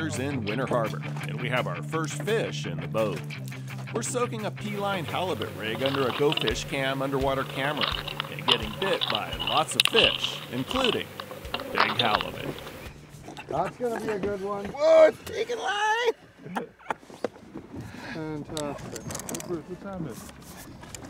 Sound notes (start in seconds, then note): 17.9 chuckling